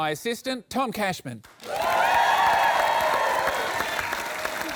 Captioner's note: applause